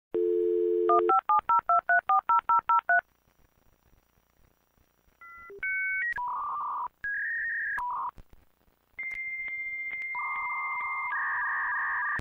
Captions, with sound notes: Wooo BEP DOP BEEP BAP BOOP BAEP DE BEE BA DOOP BA *deathly silence* Bleep dooOOoo BAaahh DeeeBAP DIGITAL SCREAMS OF AGONY